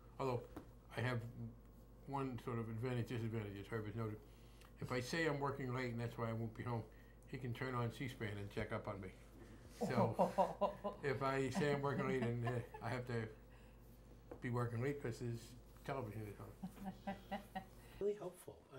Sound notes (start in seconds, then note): 9.8 laughs